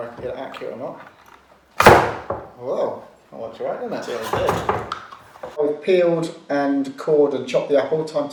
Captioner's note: it bangs